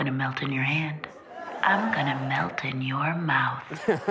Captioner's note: laughter